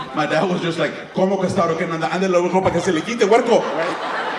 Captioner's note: followed by rapid Spanish; audience laughing